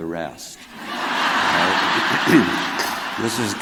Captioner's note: crowd laughing